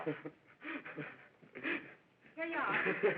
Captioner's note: sobbing